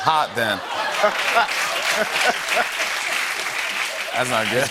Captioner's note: laughter and applause